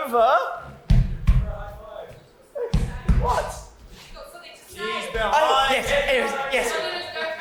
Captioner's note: Veruca stomps